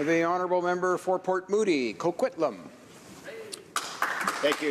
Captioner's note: applause